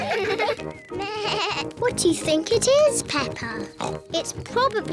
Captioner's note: bleats; oinks